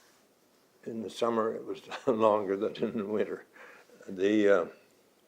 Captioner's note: laughs